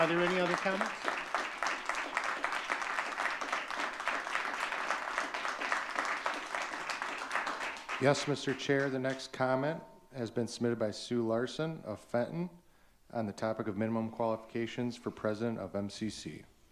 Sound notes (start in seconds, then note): 2.5 audience clapping